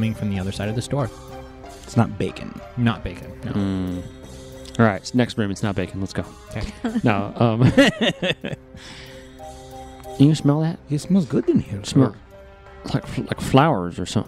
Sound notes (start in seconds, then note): 3.9 in Valdeen's voice, joking; 7.6 laughs